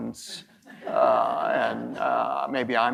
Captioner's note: audience members laughing